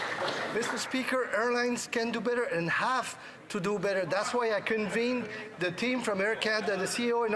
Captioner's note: some Applause